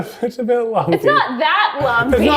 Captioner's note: laughing